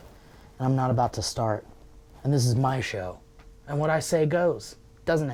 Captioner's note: none